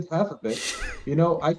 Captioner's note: laughter